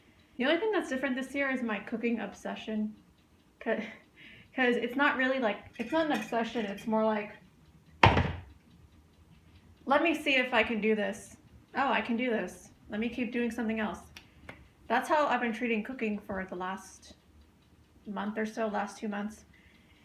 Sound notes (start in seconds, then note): 4.2 laughs